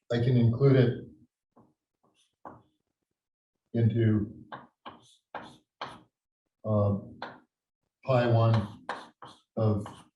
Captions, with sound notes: I can include it into (chalkboard tapping loudly) pi one of P connected